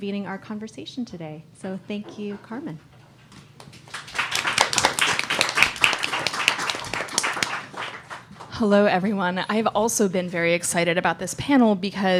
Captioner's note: applause